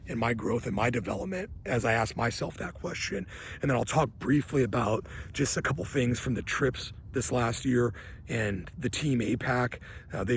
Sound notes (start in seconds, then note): none